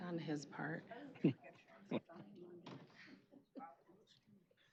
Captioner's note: indistinct chatter